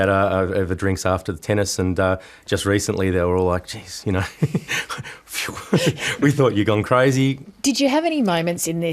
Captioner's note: laughs